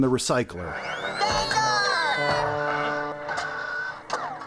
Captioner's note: shouting